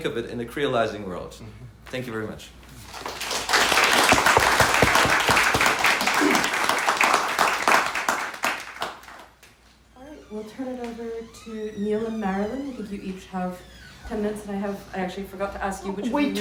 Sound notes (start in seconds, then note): 7.3 applause